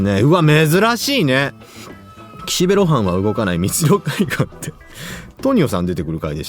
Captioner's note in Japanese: 笑い